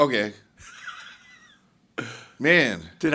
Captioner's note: chuckling